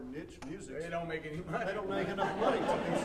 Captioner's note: audience laughing